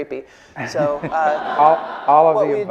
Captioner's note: laughing